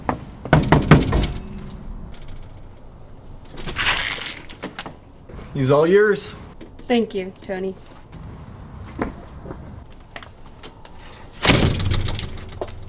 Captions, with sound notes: [knock] [door opens] He’s all yours. Thank you, Tony. [door closes]